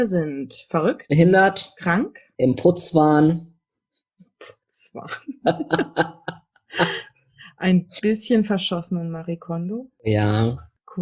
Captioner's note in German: beide lachen